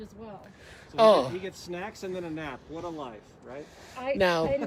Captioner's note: laughing